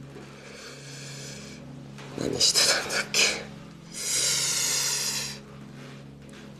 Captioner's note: inhales sharply